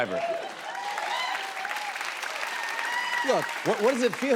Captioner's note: cheers and applause